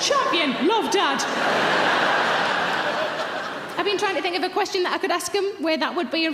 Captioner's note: audience laughs